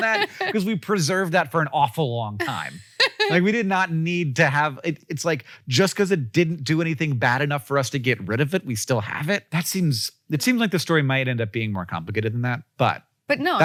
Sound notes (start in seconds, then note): 2.4 Rachel laughs